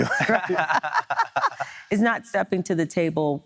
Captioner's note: laughing